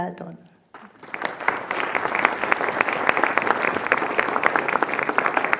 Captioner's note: audience applauding